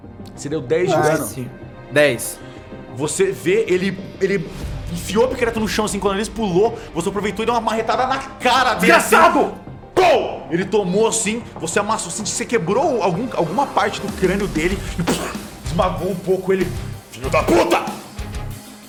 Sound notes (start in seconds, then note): 10.1 poww; 14.8 puhf